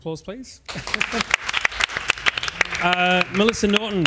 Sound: audience applauds

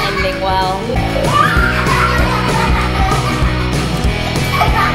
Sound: laughing

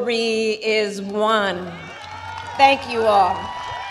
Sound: applause

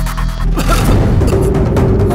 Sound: coughs

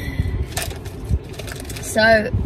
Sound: packet crinkles

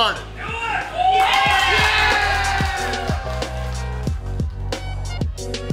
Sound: people cheering and clapping

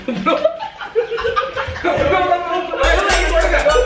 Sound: laughs

